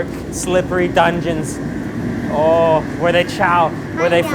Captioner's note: foreign language